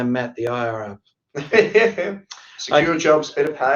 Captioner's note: laughs